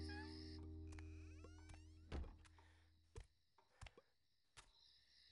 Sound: door creaking

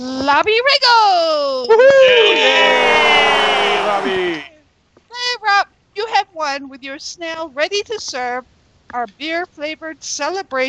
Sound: cheers and Applause

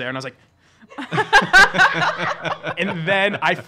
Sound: laughing

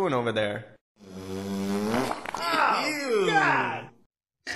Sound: farts

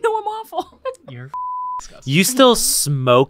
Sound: beep

